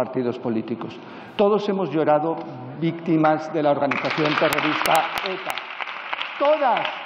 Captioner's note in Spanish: Aplausos